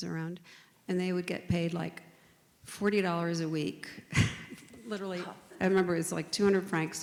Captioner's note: huffs